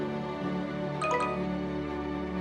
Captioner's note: notification Sound